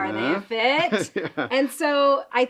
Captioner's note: speaker laughing